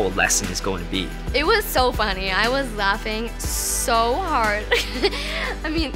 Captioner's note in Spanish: Riendo